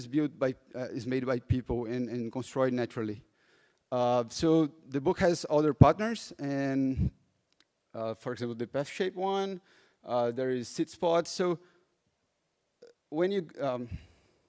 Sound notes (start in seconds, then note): none